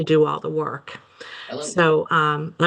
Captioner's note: participant chatters